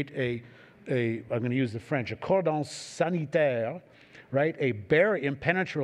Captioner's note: french